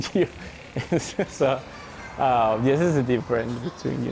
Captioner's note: chuckles